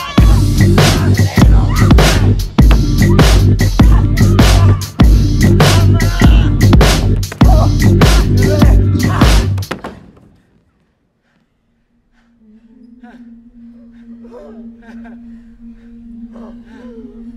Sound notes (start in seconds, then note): 13.3 gasping